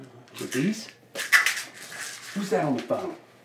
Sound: pills rattling

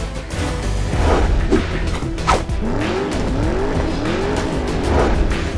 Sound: engines revving; swipes and swishes; swipes and swishes

